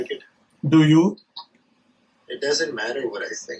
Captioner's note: sarcastically